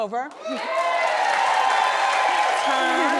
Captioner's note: audience cheers